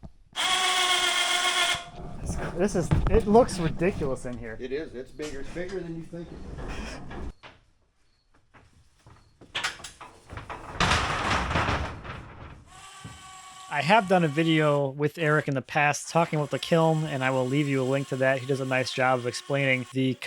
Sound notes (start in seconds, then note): 0.6 machine whirring; 11.3 metal clanking; 12.7 machine buzzing